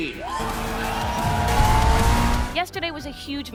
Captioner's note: loud cheering